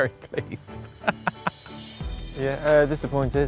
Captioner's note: laughs